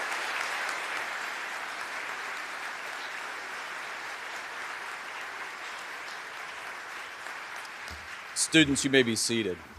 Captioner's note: applause